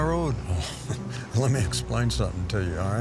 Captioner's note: chuckles